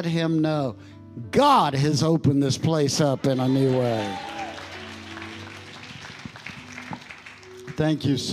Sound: congregation cheering and applauding

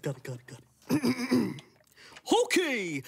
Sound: Milo clears his throat

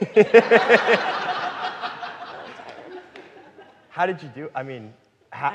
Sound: audience laughing

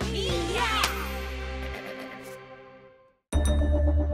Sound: Huggie clears throat

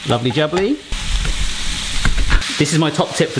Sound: meat sizzling

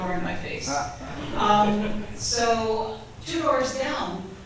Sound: audience chuckles

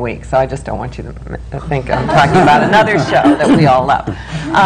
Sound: laughter

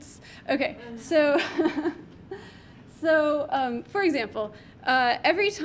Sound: laughs

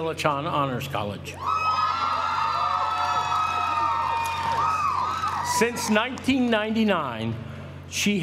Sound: applause

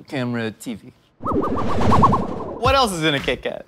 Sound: sci-fi whizzing

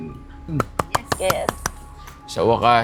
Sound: clapping

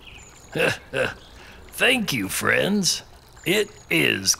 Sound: chuckles

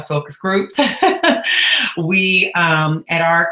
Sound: laughing

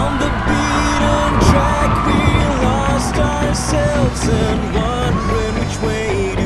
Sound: cheering, thunder cracks

